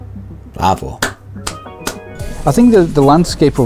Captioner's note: claps